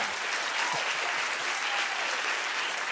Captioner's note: applause